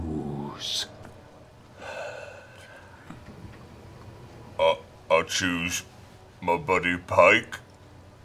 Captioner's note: sighs